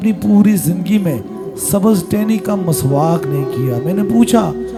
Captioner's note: brushing teeth